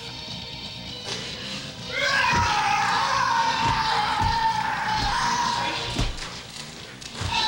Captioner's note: foot pounding; man grunting